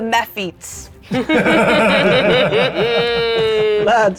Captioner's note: players laughing